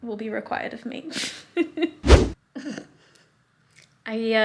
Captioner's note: whooshing sound